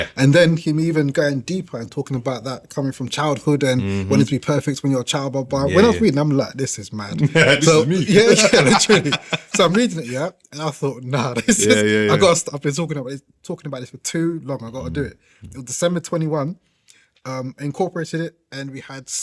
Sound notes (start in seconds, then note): 8.7 laughing